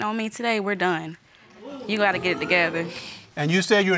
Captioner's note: crowd booing